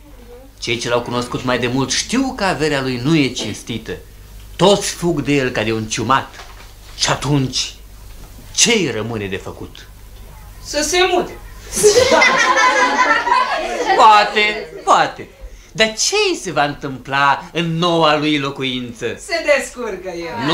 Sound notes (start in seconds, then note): 11.6 children laugh